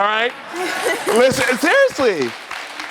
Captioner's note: laughs